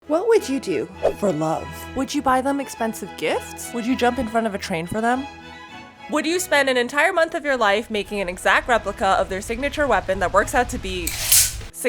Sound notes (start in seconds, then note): none